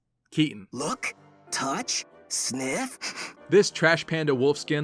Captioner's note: sniff sniff